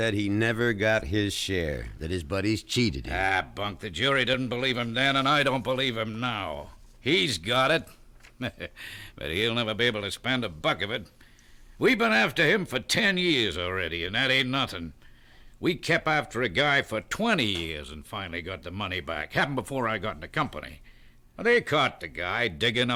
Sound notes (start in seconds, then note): 8.3 chuckles